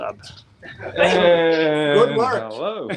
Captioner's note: laughing